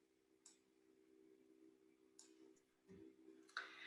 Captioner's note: mouse clicks